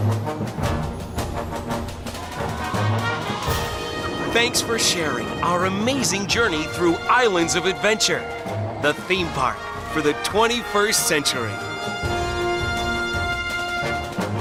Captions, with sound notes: (people cheering) Thanks for sharing our amazing journey through Islands of Adventure, the theme park for the 21st century. (upbeat music)